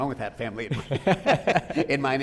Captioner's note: both laughing